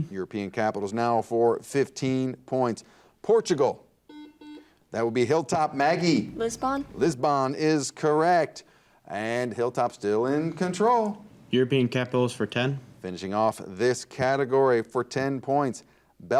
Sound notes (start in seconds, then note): 4.1 buzzer dings